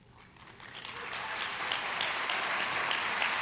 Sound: applause

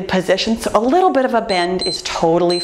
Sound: timer beeps

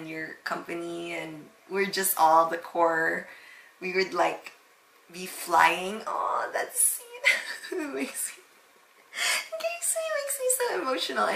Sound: nostalgic chuckle

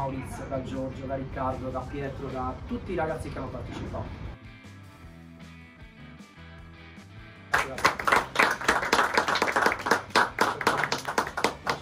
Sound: applause

